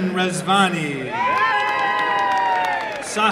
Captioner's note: applause and cheering